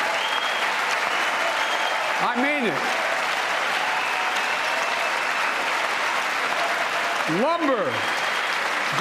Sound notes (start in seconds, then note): 0.0 cheers and applause